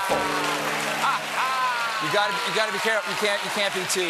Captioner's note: applause